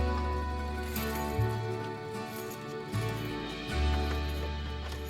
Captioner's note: keys jingling